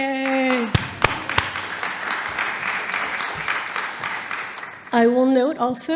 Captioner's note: audience applauding